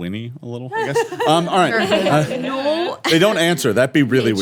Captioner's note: laughing